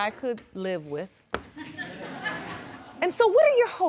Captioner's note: audience chuckling